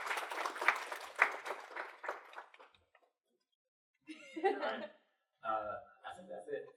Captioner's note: applause